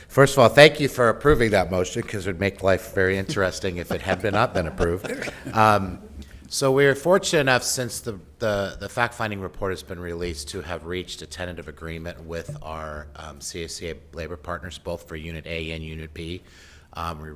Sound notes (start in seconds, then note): 5.8 laughing